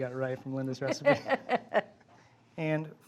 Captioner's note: Julia laughs